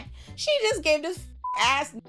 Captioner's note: beep